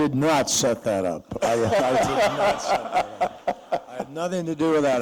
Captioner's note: laughter